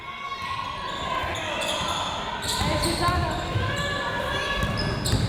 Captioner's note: crowd members shouting